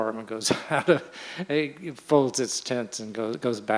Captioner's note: chuckles